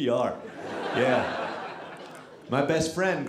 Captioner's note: audience laughing